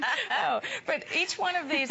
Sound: laughter

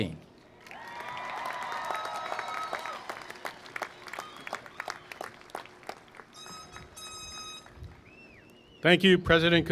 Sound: applause

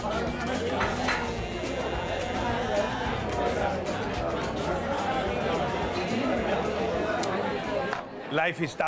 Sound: restaurant noises

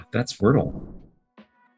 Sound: whoosh

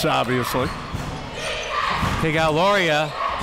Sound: crowd

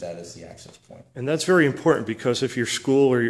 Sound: voiceover

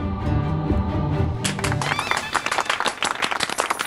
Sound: claps

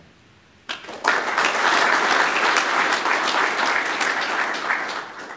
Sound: clapping

